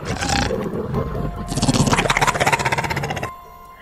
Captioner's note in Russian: рык